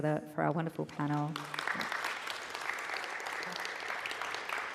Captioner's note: audience applause